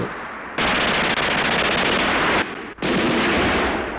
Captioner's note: guns popping